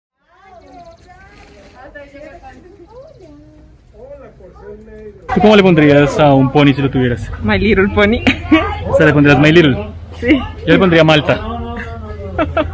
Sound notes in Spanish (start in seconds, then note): 8.2 risas